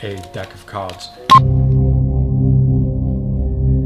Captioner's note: beeping